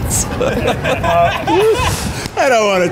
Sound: laughter

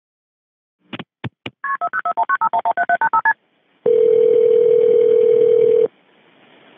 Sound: phone beeping; phone ringing

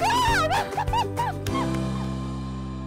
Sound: cheering and clapping; percussion music

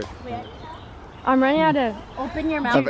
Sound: imitates bird

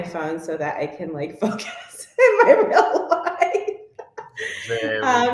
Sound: laughs

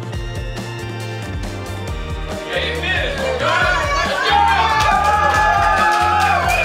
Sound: crowd

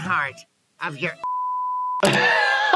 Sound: beep; laughs

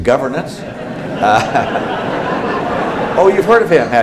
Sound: laughter

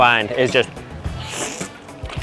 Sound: slurping

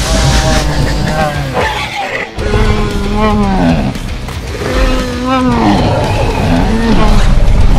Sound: Bumpy growls

